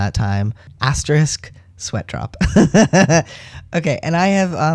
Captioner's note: laugh